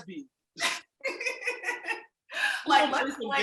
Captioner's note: laughs